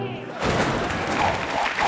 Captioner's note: helicopter crashes; audience clapping; logo whooshing